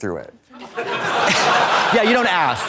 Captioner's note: audience laughs